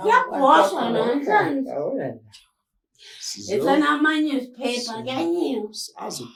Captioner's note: mumbling